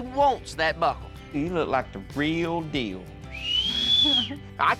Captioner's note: whistling